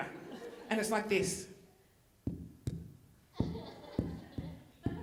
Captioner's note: microphone popping; audience laughing